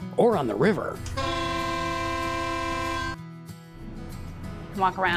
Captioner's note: horn blowing